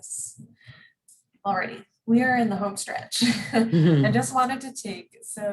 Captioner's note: both laugh